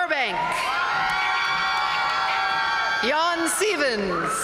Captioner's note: audience cheering and applauding